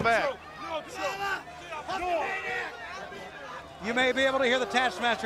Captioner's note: crowd chatter